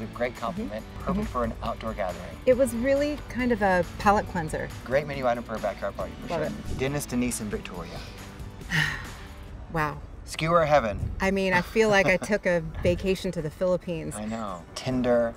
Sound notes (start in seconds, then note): 8.6 sighs